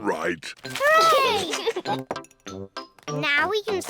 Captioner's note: giggles